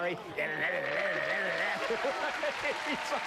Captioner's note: imitates Whammy sounds; laughter